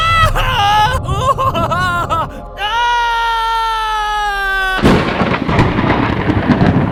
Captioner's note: wonka screams as all consuming knowlege enters his mind